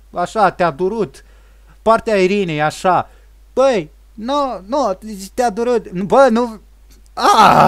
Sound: derps and rages

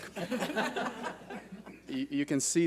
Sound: board laughs

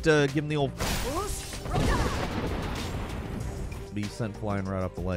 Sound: character speaks foreign language

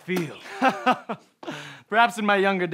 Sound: laughs

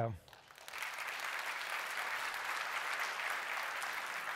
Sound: applause

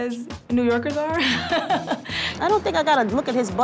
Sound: laughing

